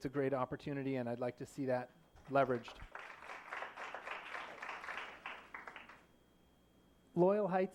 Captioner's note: applause